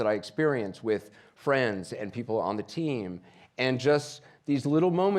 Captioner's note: none